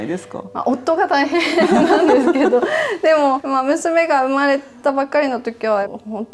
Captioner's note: laughs